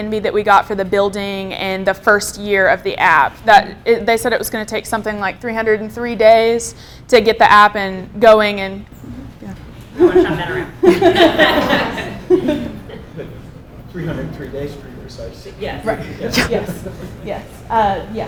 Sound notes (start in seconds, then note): 10.8 everyone laughs